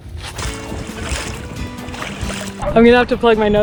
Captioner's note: water splashing